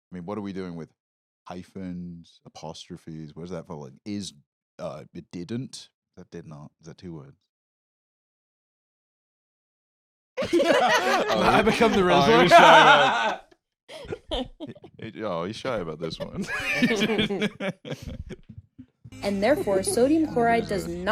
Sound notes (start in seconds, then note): 10.4 others laughing; 13.2 laughs